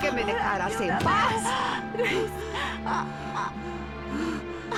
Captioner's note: groans